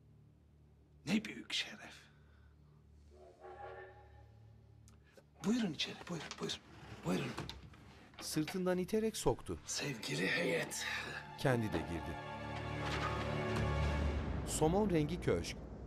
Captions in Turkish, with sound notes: ...ne büyük şeref. (Tren düdüğü sesi) Buyurun içeri, buyurun, buyurun. Buyurun. Sevgili heyet. (Müzik - Gerilim)